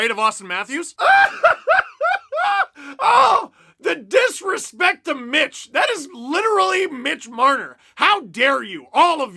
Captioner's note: hysterical laughter